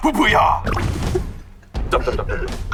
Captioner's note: the original writer can't stop laughing